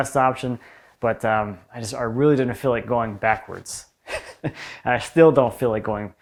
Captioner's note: chuckles